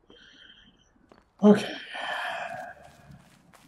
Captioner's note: sighing